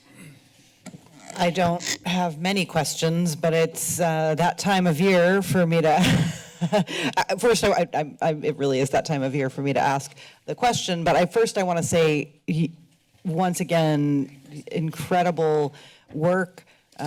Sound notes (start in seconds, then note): 6.0 laughter